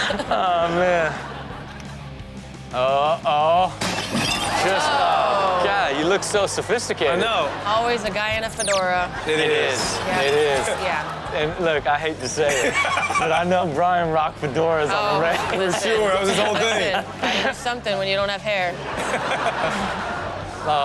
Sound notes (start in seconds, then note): 2.1 rock music plays; 3.9 glass breaking; 12.6 laughing; 15.1 crowd laughs; 19.0 all laugh